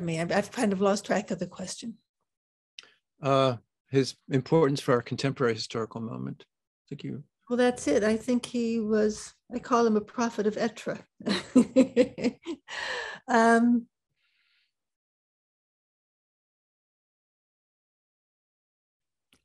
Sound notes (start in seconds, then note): 10.7 non-english; 11.4 laughs